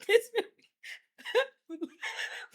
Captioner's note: laughing